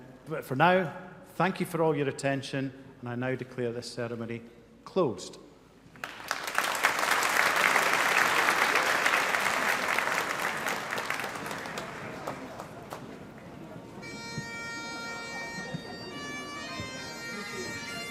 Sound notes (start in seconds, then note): 6.0 audience applauding; 14.0 bagpipes playing